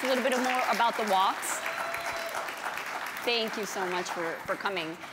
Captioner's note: applause